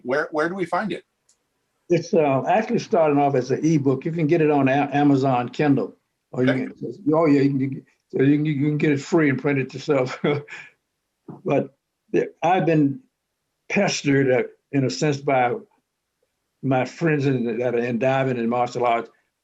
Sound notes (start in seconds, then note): 8.2 chuckles